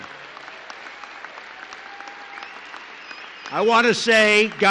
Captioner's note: applause